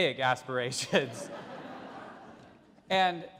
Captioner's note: audience laugh